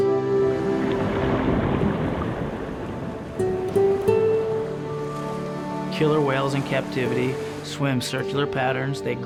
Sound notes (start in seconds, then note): 0.6 splashing